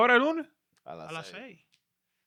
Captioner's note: speaking In Foreign Language